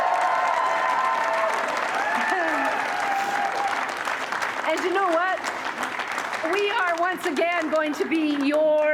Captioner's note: cheers and applause